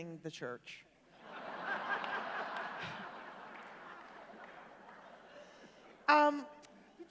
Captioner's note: laughter